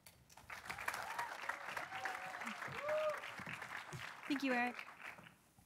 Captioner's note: audience applauding